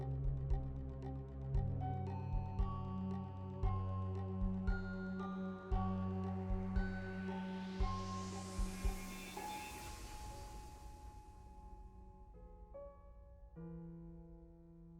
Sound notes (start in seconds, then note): none